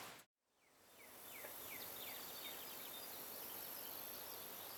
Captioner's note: birds chirping